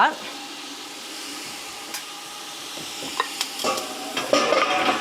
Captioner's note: mixture sizzling; bowl clanging